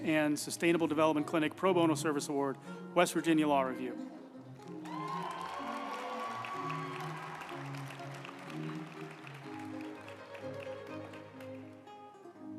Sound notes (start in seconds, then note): 4.6 group applauding; 5.0 uplifting music